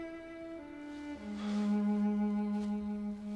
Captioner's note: sighs